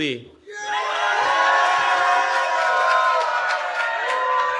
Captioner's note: cheering